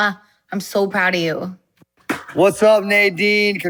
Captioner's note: kiss smacking